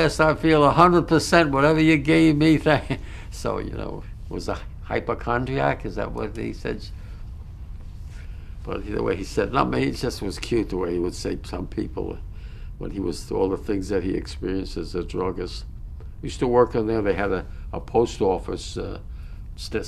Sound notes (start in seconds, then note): 2.9 laughs